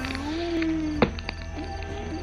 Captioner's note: morphing